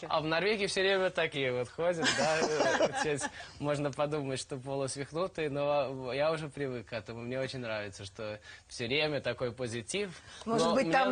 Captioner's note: hosts laugh